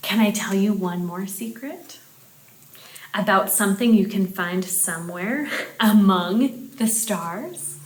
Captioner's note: none